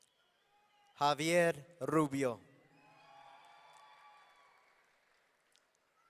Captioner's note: audience cheering